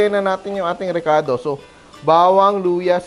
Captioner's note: sizzle